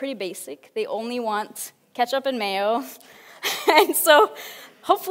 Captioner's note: laughs